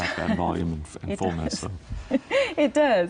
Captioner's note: laughs